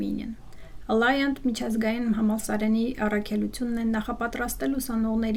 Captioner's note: speaking in Armenian